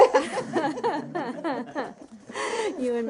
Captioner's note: laughter